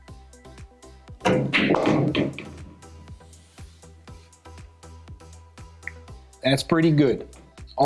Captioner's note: pool balls clacking and thudding